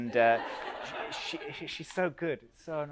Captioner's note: audience laughs